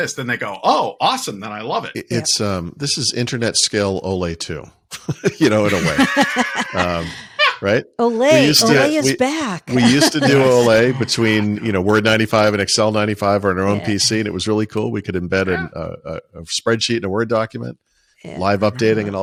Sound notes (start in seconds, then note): 4.9 both laughing; 5.0 laughing